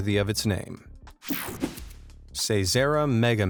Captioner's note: air whooshing